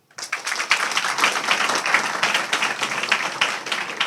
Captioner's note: audience applauding